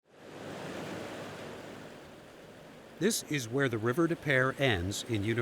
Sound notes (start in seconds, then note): 0.2 water rushing